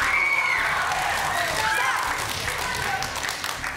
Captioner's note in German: Jubel und Applaus